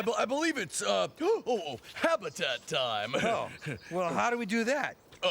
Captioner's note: gasps